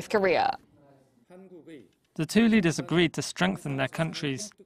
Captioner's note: Korean